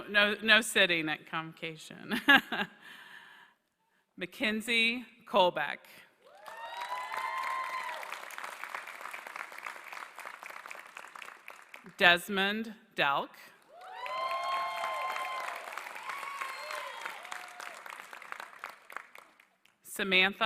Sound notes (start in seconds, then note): 2.1 laughter; 6.2 applause; 13.5 applause